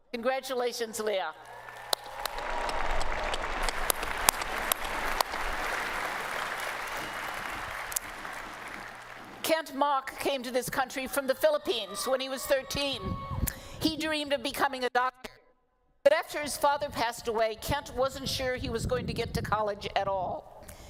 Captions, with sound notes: Congratulations, Leah. [ Applause ] Kent Mok came to this country from the Philippines when he was 13. He dreamed of becoming a doctor. But after his father passed away, Kent wasn't sure he was going to get to college at all.